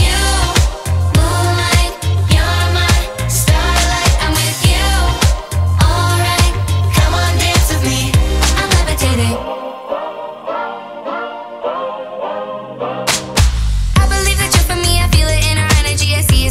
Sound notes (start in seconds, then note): 9.1 upbeat music; 13.0 hands clapping